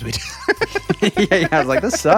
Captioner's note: laughing